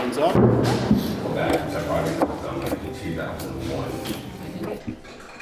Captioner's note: attendees chattering